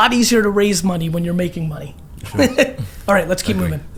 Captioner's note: laughs